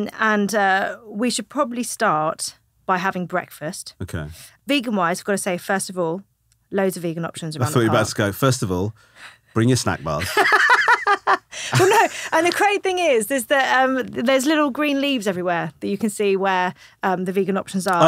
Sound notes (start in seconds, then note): 10.1 laughing